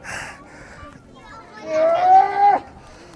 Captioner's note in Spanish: grita